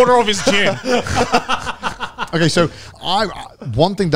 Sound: all laughing

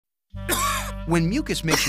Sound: cough

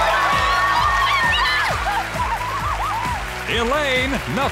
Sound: women screaming

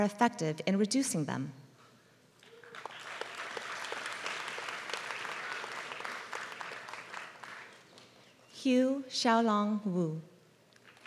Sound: applause

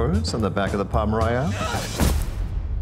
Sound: thud

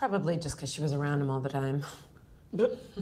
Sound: scoffs

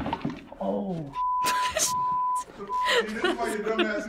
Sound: laughs

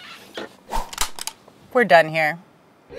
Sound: gun cocking

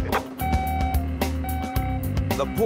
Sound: machine beeps

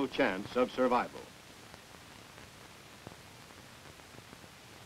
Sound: silence

